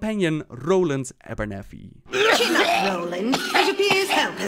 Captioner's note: cough cough